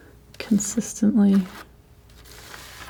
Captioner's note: scratching